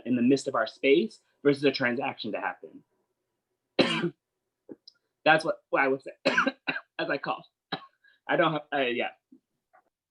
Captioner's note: coughs